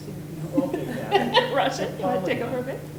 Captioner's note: laughs